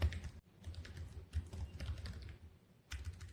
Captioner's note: keyboard keys clicking